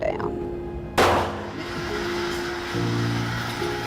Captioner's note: gun shot